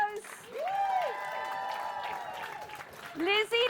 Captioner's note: cheering